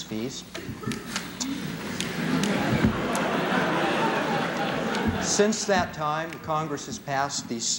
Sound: laughter

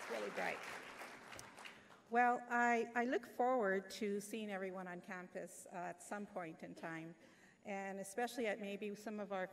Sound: applause

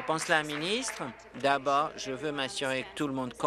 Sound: applause

